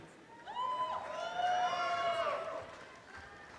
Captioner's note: audience cheering